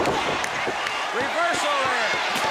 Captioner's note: crowd cheering